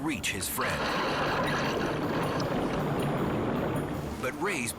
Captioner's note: water splashing